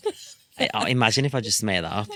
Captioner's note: laughs